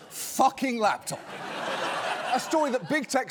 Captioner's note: laughter